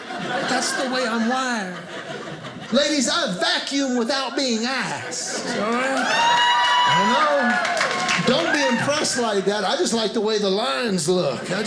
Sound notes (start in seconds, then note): 5.8 women cheering; 11.4 audience laughing